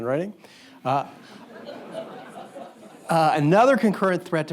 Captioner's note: audience chuckles